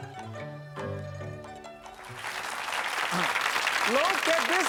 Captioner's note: audience applause